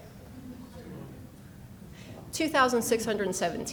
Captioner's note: people mumbling